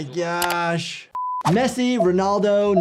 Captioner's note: keyboard clicking; screen beeping